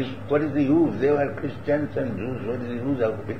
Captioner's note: Hindi